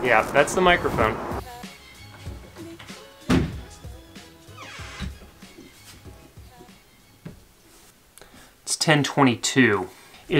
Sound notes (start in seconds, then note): 4.5 door squeaks